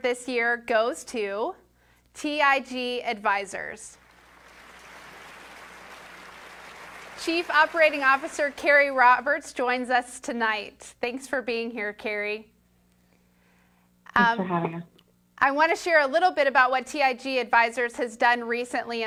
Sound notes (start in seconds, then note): 3.9 applause